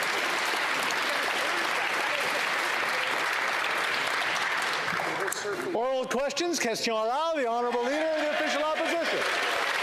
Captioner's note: applause